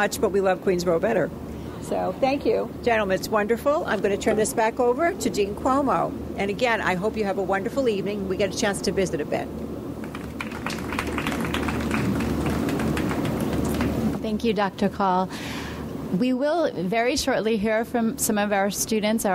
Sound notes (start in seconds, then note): 10.0 audience applauds